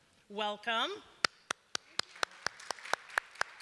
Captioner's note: applause